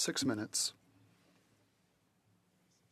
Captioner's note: speaking French